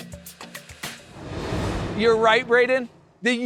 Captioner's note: graphics whooshing